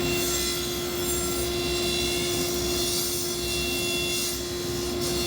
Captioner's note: electric saw whirring